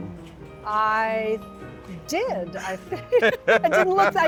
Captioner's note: laughs